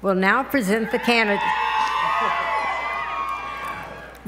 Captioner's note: cheering